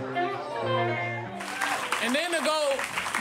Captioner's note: audience applauds